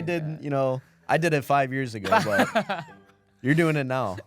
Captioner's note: laughs